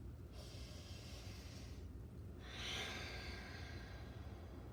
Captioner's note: breathing deeply